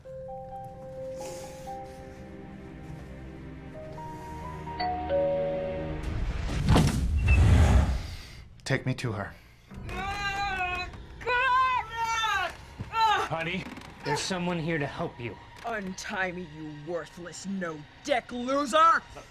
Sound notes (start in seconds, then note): 4.7 door bell; 11.8 moaning